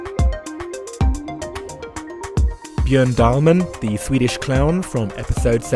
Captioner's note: voiceover